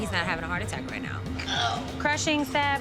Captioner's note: groan